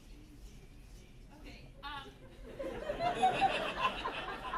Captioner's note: whisper chanting "teeth teeth teeth"